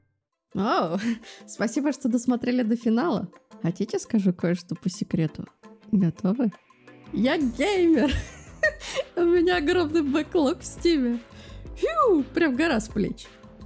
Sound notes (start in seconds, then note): 8.0 laughs